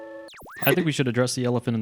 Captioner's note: static buzzes